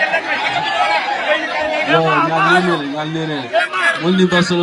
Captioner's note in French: rire